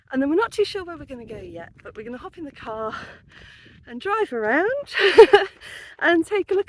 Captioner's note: laughing